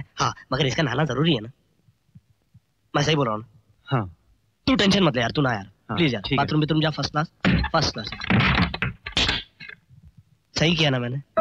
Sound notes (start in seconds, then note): 8.1 door Locking